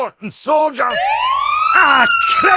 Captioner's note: sirens